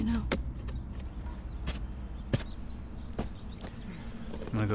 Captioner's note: shovel thudding and scraping; tense droning continues